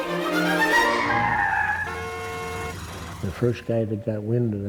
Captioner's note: classical music; car horn blaring